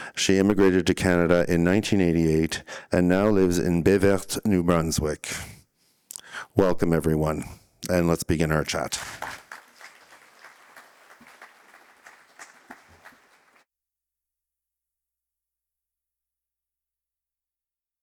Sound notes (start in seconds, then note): 8.6 applause